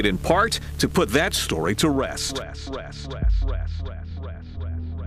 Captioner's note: echoing